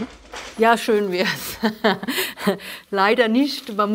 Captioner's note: laughing